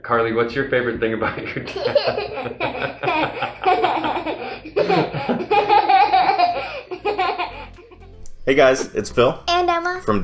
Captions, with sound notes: Carly, what's your favorite thing about your dad? (chuckles) (children and dad laughing) - Hey guys, it's Phil. - And, Emma!